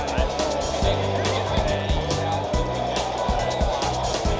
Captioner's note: crowd noise